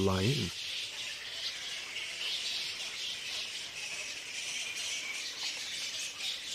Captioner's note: bats squeaking